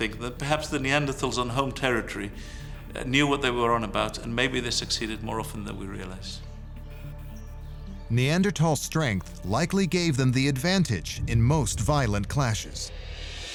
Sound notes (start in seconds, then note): 6.7 birds chirping; 6.7 tense music